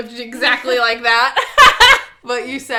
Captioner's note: laughs